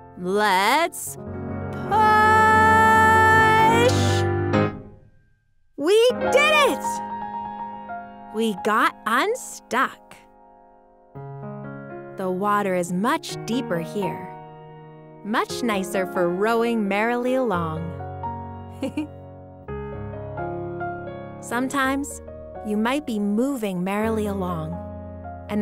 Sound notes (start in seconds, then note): 7.3 upbeat music; 10.5 soft music; 18.8 laughing